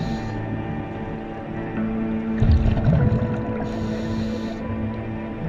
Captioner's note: underwater sounds continue